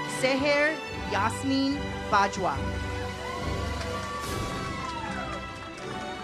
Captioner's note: audience applauds; uplifting music